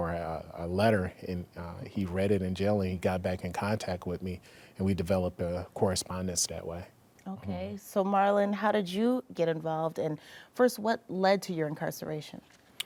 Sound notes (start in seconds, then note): none